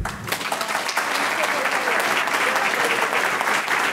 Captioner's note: audience clapping